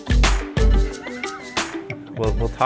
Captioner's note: laughing